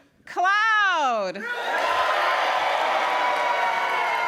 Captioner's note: loud cheering